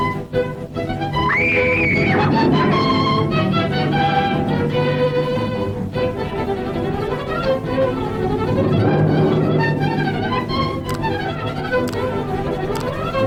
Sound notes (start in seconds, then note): 1.3 Chloe screaming; 6.0 intense suspenseful orchestral music continues